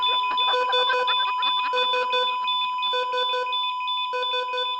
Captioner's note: disembodied laughing